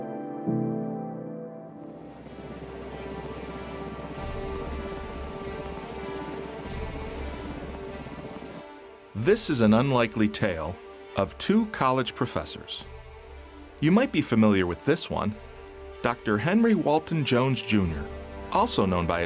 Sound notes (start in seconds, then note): 0.8 gentle music; 3.5 chopper whirring; 3.5 dramatic music